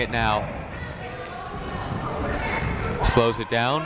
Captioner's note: people shouting in the crowd